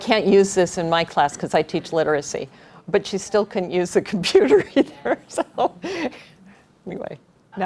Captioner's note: chuckle